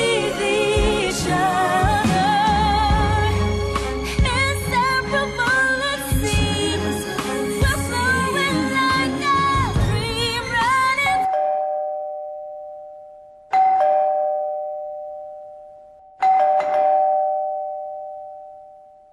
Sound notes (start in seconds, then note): 11.1 doorbell ringing